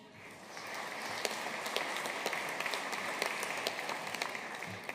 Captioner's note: audience applauding